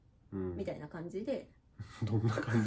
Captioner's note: laughs